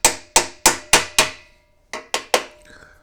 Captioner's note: tapping